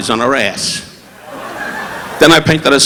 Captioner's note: audience laughing